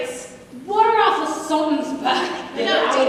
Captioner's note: drunkly